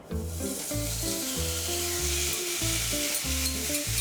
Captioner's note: pan sizzling